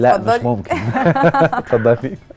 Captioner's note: laugh!